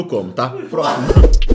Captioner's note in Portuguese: risos